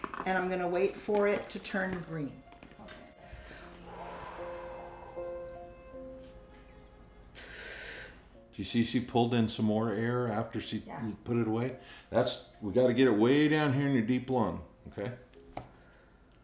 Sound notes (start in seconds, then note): 3.8 exhales loudly; 7.3 inhales deeply